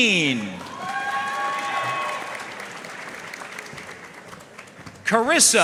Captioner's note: audience cheering and applauding